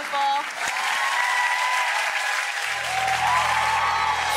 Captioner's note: loud applause